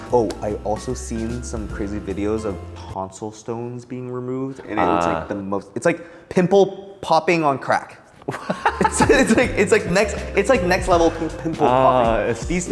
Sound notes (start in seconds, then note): 8.3 laughing